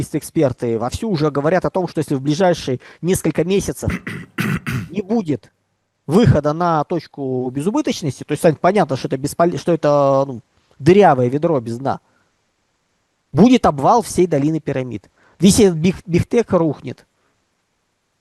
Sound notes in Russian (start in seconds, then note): 3.8 откашливается; 3.8 кашель